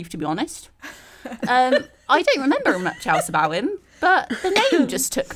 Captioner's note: all laugh